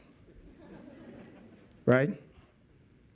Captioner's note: laughter